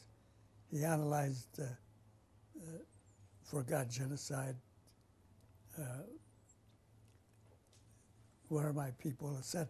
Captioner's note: pauses for 3 seconds